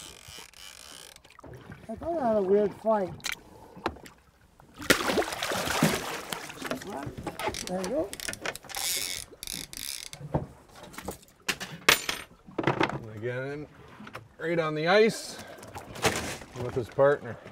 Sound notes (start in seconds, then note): 0.0 reel cranking; 4.6 fish splashing; 9.5 reel cranking; 11.5 clanking